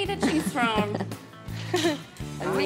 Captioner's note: chuckling